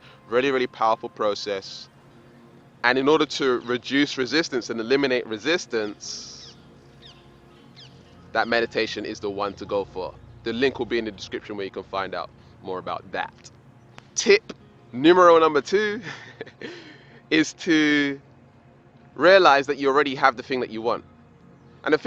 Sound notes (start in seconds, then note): 15.6 laughs